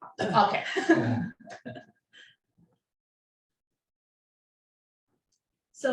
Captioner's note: giggles